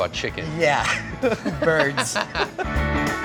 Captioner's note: laughs